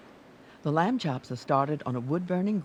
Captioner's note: voiceover